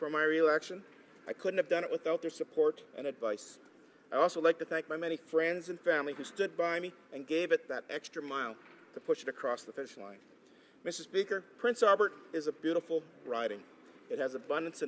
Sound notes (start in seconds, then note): none